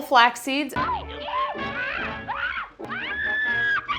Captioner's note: screaming